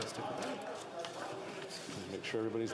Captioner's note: speaking French